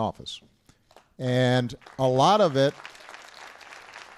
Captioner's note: applause